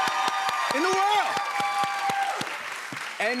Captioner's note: cheers and applause